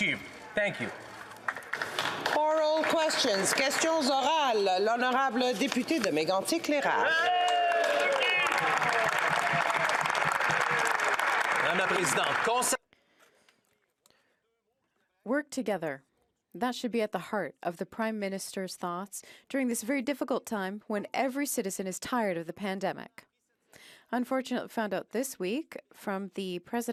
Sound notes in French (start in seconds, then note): 6.8 voix de l'interprète; 7.1 applaudissements